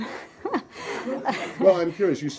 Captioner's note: laughter